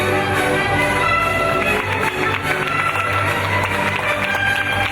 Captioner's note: audience clapping